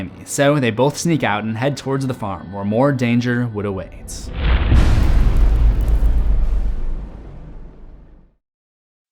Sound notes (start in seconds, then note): 4.1 cinematic impact